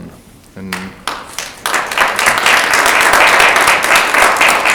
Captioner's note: audience applauds